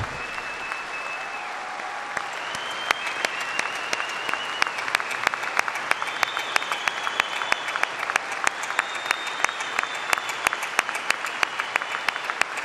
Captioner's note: applause